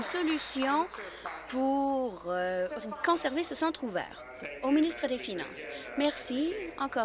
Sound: applause

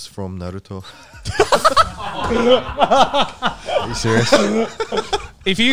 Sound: all laughing

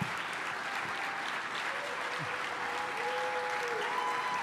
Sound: applause

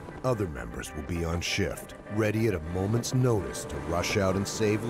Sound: voiceover

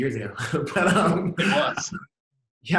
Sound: laughs

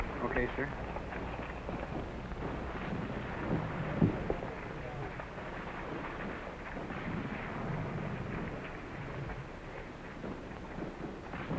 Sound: explosions continue in background

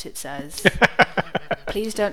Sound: laughs

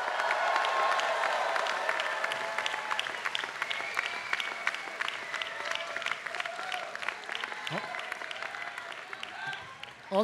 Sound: applause

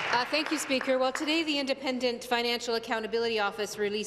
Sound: applause

